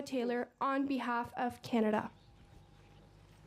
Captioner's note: speaking French